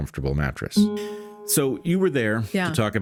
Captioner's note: gong